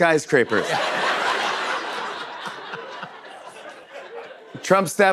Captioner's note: laughter